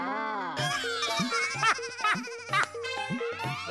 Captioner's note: laughing